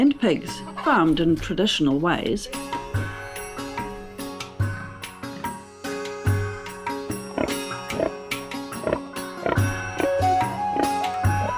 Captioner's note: pig grunting